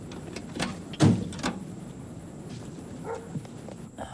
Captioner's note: car door thudding; dogs barking